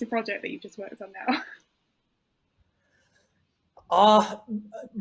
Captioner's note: chuckles